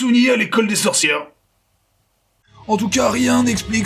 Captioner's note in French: Silence Gênant